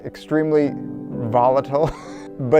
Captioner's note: laughing